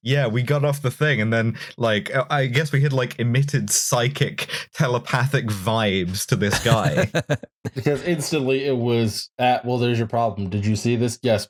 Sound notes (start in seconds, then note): 6.4 laughs